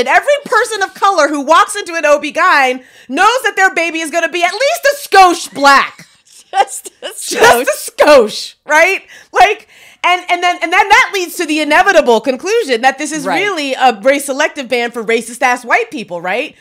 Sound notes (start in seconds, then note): 5.5 laughs